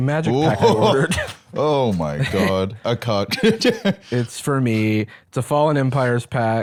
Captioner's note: laughs